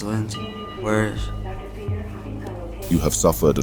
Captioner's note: nurse paging doctor